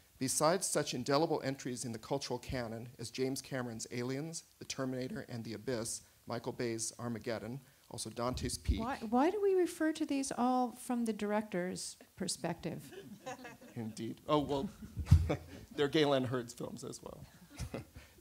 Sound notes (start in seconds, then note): 12.8 laughter; 17.4 chuckle; 17.4 laughter